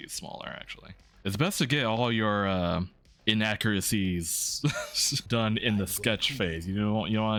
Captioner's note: laughs